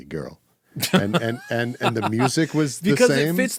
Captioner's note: laughing